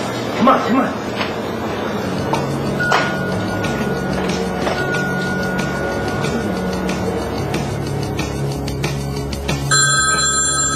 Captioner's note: phoneringing